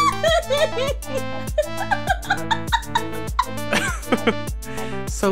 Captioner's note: laugh